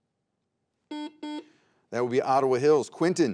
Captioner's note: buzzer beeps